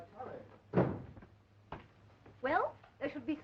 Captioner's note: door closing